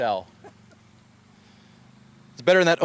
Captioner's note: laughs